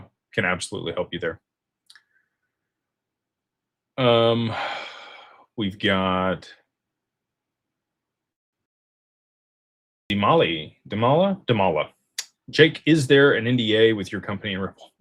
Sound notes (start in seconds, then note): 4.2 sighs and gasps